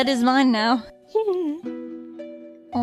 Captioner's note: laughs